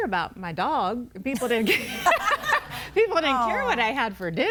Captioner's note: laughs; everybody laughing